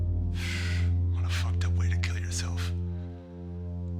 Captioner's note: sighs